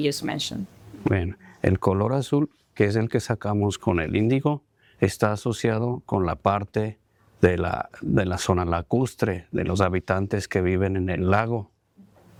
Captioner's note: speaking spanish